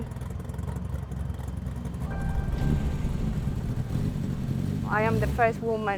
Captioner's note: car engine starts